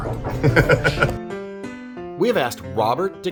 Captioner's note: laughing